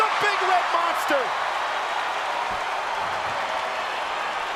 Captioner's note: crowd cheering